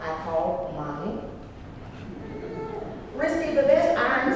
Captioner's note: laugh